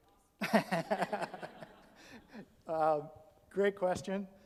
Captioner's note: all laugh